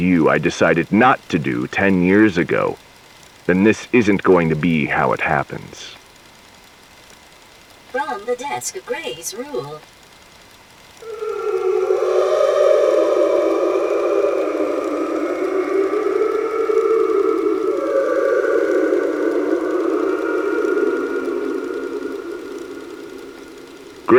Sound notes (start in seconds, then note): 14.0 whale song